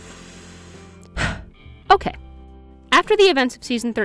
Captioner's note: deep breath